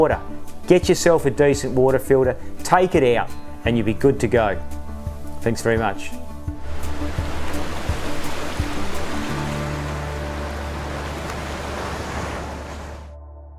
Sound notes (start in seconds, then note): 6.5 rushing water